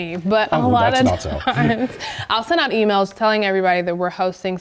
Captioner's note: laugh